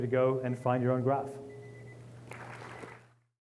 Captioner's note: applause